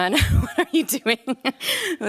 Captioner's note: laughs